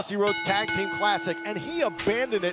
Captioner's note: bell ringing